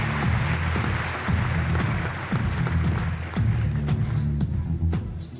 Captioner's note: applause